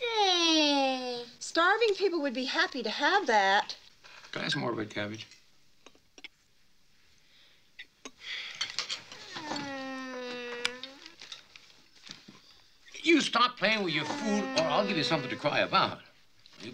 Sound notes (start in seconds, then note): 9.2 sighs; 9.4 whining